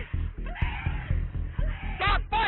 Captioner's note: screaming